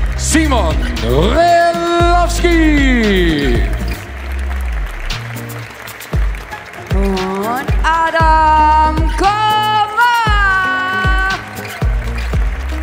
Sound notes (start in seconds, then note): 5.1 applause; 10.7 applause; 11.8 ♫ Midtempo guitar music ♫